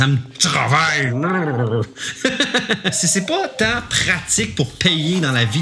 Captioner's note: laughs